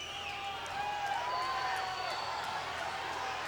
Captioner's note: crowd cheers